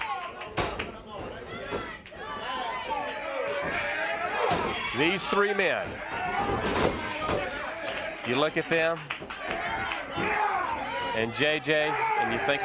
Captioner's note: crowd cheering